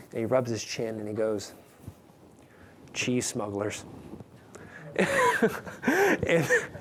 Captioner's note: laughing